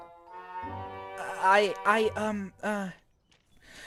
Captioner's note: sighs